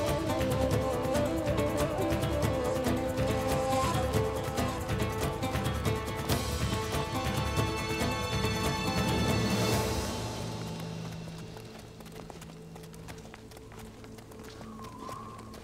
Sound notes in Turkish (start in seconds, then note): 12.2 At nalı sesleri